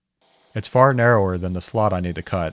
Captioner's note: saw whirring